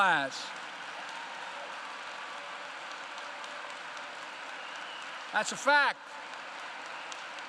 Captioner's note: applause